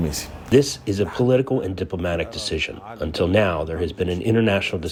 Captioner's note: through translator